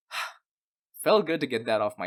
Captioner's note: sigh